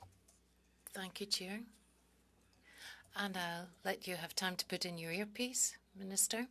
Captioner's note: speaking French